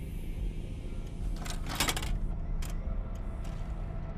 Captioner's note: video cassette clattering; VCR whirring